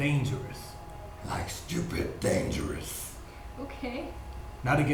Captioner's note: threatening voice